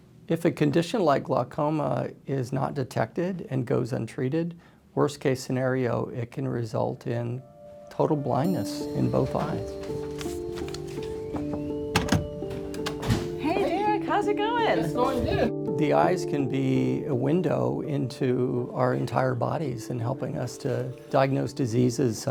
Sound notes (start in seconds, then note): 10.3 somber music; 11.2 practitioner knocking